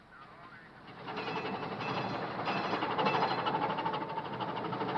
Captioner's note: metal clanking